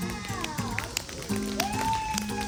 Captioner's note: appluase